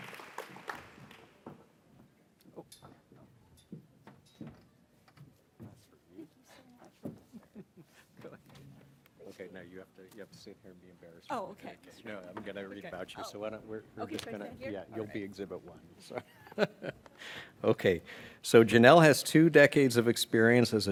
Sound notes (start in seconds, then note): 4.9 footsteps falling; 16.1 chuckles